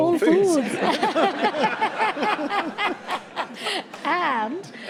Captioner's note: audience laughs